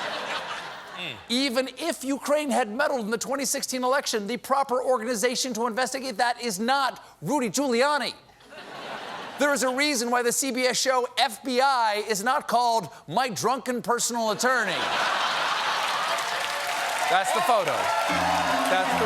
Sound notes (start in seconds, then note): 0.0 laughter; 14.4 laughter; 15.4 applause